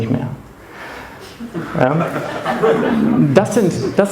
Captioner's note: laughing